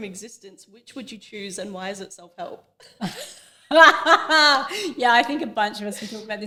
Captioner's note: laughter